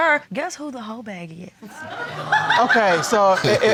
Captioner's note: audience laughs